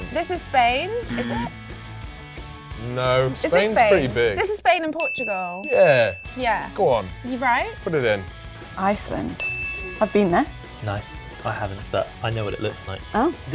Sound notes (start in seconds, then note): 0.0 bell dings; 2.4 alarm; 5.0 bell dings twice; 9.3 bell dings